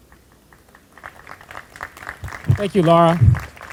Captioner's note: group applauding